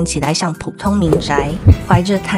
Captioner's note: knock knock